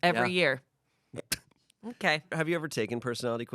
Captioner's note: Shayne laughs